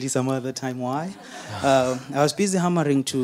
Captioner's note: audience laughing